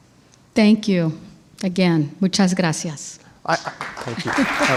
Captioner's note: speaking in foreign language; audience applauds